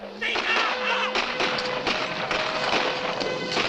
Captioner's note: bugle sounds, gunfire